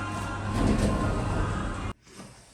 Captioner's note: doors close